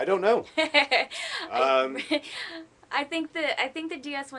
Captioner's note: laughter